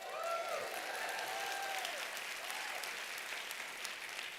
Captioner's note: applause